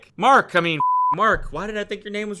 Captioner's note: beep